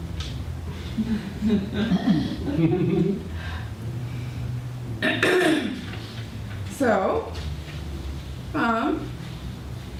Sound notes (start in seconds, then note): 2.5 audience laughter; 5.0 clears throat